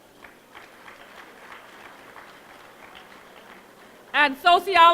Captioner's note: applause